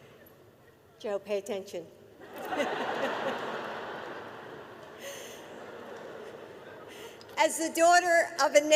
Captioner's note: laughter